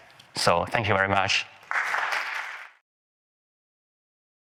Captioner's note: audience claps